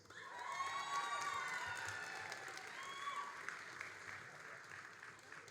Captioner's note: all applauding and cheering